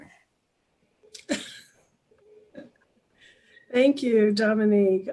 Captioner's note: laughs